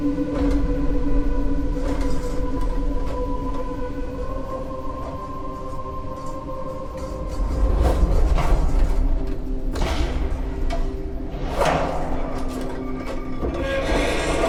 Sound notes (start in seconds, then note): 7.2 metal crashes and wind howls; 12.5 metal collapses and clangs